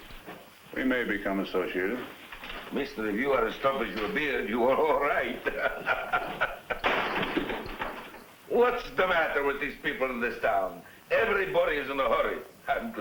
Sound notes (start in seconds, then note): 6.8 door slams